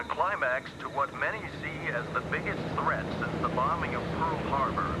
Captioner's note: man over radio